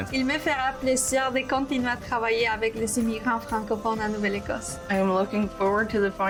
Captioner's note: woman speaks in foreign language